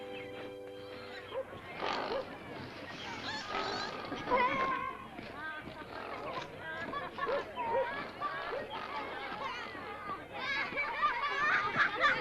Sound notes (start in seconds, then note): 1.7 pigs snort; 4.3 background chatter; 10.3 childrens' laughter